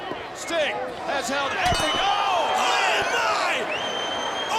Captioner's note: metal clanging